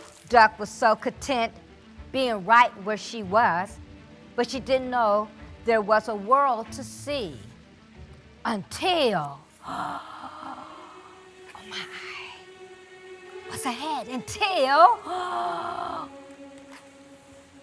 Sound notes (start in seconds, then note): 9.6 gasps